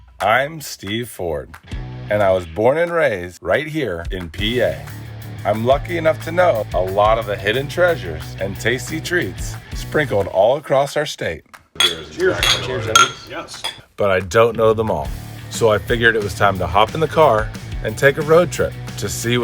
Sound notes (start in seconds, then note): 11.8 glasses clinking